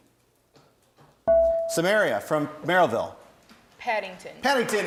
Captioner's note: bell rings